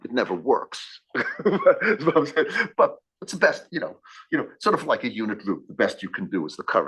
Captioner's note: laugh